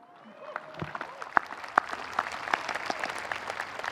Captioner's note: audience applauding